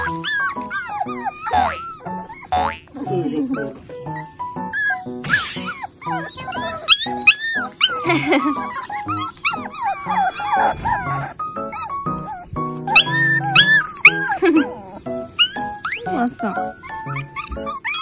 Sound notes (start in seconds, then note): 7.1 Gunbam's sad whine; 9.9 they are whining together